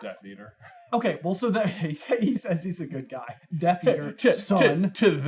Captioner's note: laughs